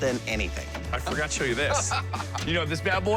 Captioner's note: laughing